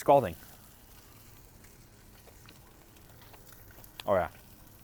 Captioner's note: oil sizzling